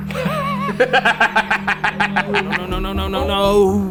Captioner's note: laughing